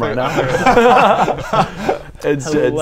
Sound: benefit-of-the-doubt laughter

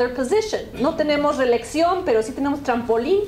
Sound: speaking spanish

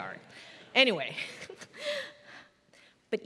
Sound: laugh

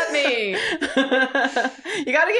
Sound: laughter

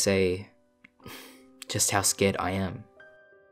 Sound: sigh

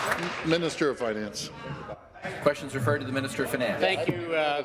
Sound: applause

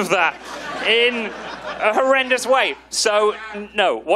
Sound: audience laughing

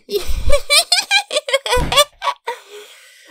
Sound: giggles approvingly

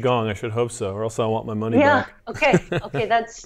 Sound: chuckles

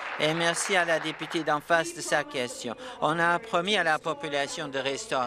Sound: applause

